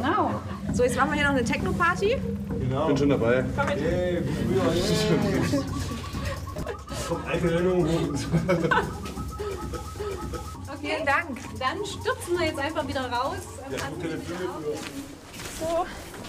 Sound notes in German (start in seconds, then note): 6.9 Lachen